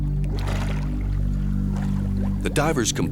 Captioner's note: water bubbles